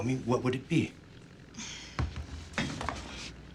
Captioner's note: sighs